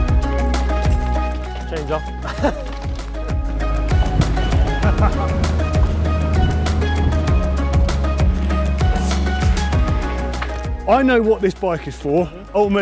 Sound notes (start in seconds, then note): 2.6 laughing; 4.0 upbeat music